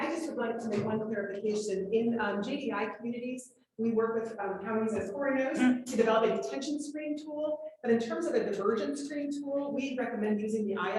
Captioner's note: off microphone